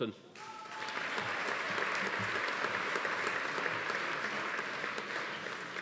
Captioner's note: audience applauding; attendee cheering